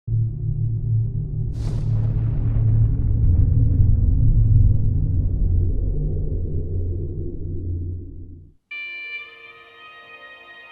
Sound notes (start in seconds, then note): 0.6 boom sound